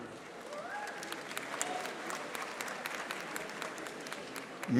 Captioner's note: audience applauding